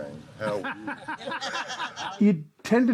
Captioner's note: laughing